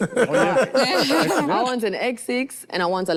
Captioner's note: group laughs